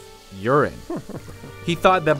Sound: chuckling

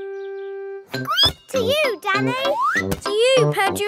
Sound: squeaks

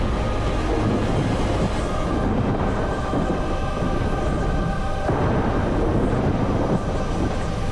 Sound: thundering

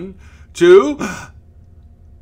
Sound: gasp

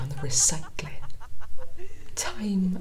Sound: laughter from another room

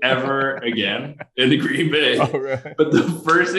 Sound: laughing

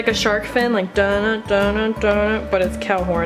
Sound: hums

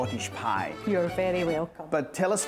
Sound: with Scottish accent

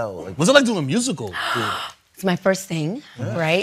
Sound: inhales deeply

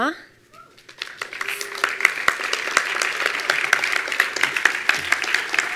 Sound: attendees applauding

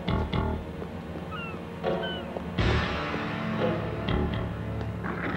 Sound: birds shrieking

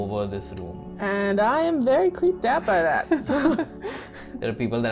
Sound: laughter

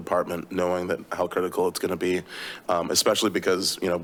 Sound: inhales

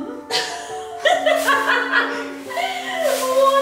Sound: laughing

